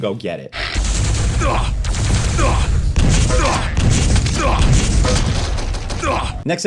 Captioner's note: character grunting; gun firing